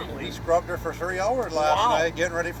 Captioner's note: voiceover